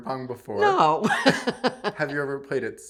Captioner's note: laughs